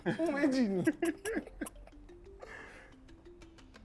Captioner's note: laughs